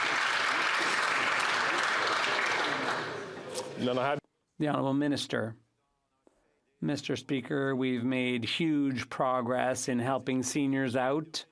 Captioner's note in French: applaudissements